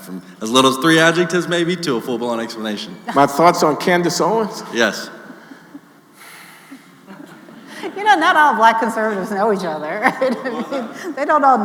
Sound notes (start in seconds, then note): 6.1 Glenn sighing